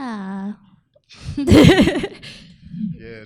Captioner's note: laughs